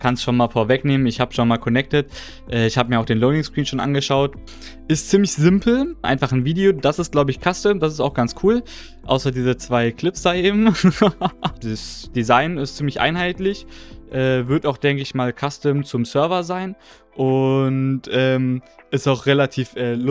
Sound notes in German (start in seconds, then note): 9.3 schnauben; 10.6 gelächter